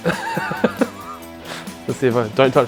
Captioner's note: laughs